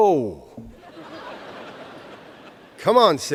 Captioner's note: laughter